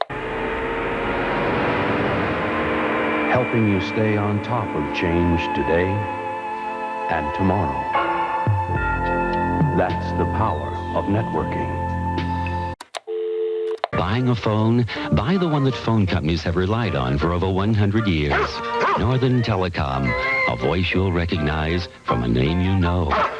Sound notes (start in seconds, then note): 13.0 dial tone; 13.7 click; 18.8 dog barks; 23.1 dog barks